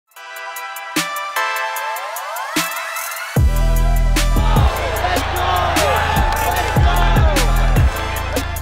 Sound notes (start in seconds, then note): 0.1 bright music; 3.4 crowd cheering